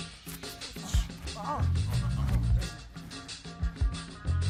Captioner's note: group grunting